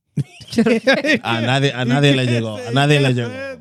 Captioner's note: laughing; speaking In Foreign Language